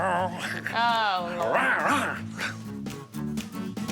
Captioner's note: growling